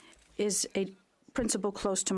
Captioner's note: speaking French